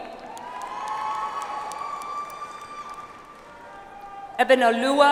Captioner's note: audience applauds